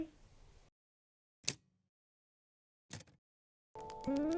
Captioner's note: typewriter key clicks